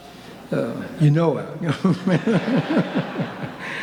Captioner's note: laughs